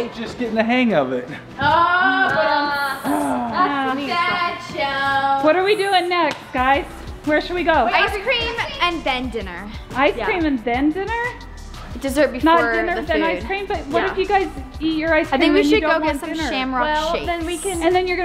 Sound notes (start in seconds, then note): 1.8 groaning